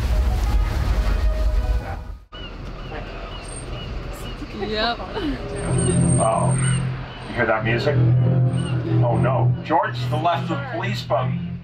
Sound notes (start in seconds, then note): 2.5 seagull squawks; 4.9 chattering in group